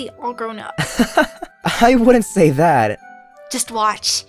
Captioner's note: chuckles